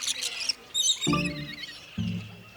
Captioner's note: birds chirping; mysterious plucky music